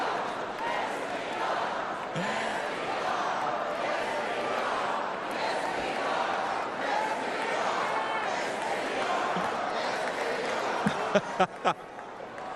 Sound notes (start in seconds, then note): 0.0 cheers and applause; 1.5 crowd chanting